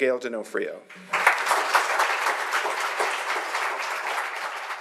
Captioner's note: audience applauding